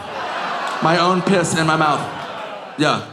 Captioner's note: audience groaning